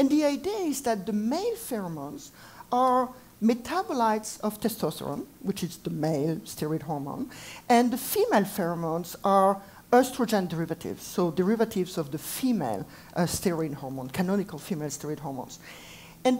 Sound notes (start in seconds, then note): none